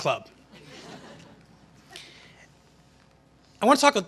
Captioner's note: laughter